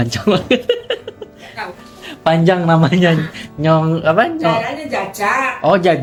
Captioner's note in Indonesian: tertawa